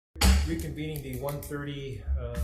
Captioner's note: gavel bangs